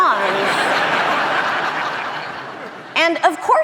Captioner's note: audience laughing